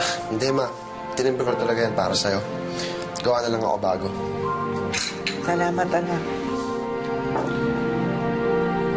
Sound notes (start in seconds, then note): 4.9 coffee cup clinks; 6.3 gentle music continues